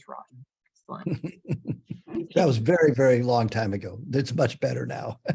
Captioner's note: laughter